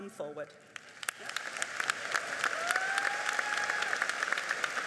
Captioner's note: audience applauding